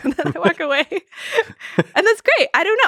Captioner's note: both laughing